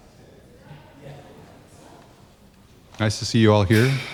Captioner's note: crowd chattering